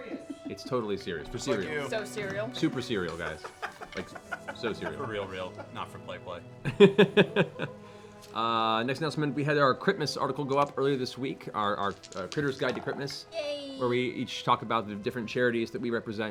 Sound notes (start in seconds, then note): 6.6 laughs